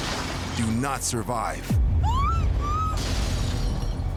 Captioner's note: woman squealing